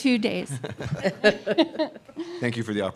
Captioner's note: laughter